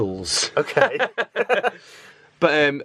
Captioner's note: laughter